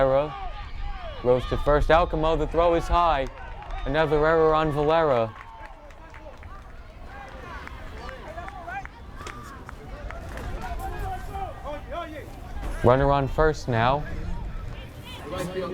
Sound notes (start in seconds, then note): 12.4 players yelling in foreign language